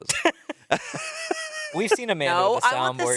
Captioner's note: everyone laughs